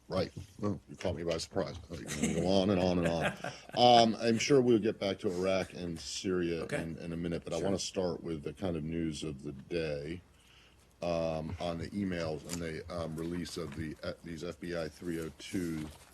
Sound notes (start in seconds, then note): 3.9 laughter